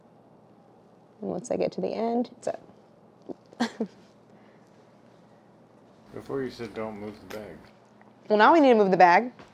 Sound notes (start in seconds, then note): 3.3 chuckles